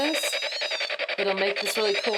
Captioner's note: beeping